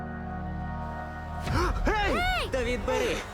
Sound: Ollie gasps

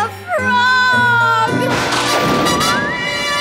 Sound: thundering

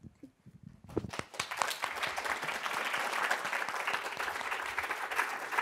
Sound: audience applauding

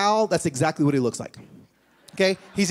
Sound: laughter

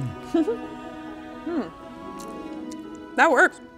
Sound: laughs

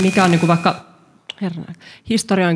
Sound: feedback

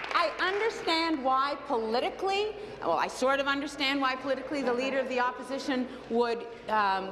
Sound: applause

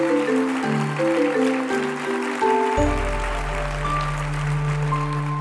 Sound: applause

